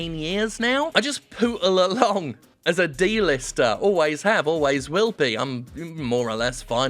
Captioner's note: chuckling